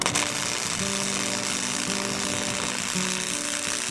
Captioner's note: sparking noise